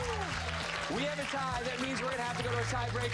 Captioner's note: applause